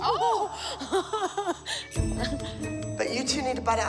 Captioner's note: laughs